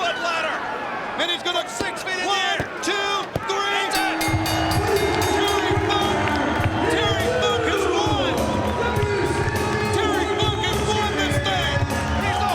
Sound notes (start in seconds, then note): 3.9 bell rings